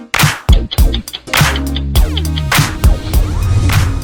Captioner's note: ticking sound